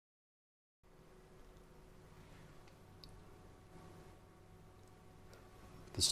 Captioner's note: silence